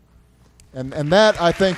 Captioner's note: applause